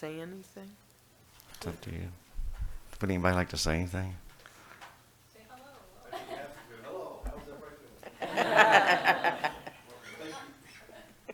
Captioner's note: laughter